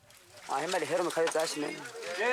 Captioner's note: Portuguese spoken audio